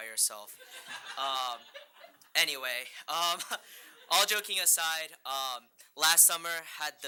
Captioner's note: group laughing